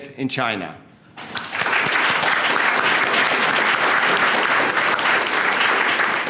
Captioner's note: applause